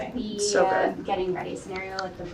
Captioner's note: woman's Voice